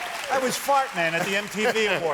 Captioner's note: cheers and applause